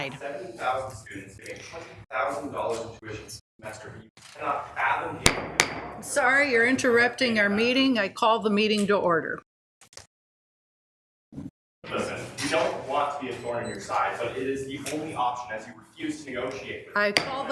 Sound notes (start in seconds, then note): 3.5 audio skips; 5.2 gavel tapping